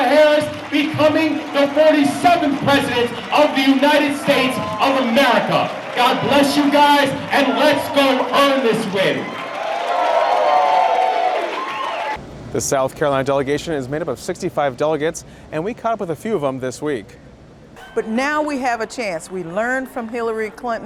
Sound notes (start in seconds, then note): 8.8 cheering